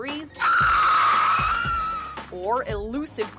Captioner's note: woman shrieking